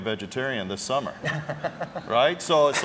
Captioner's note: laugh